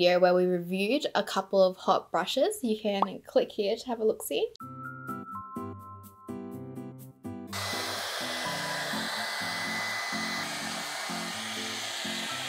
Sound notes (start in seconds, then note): 4.6 gentle music; 7.5 blow dryer whirring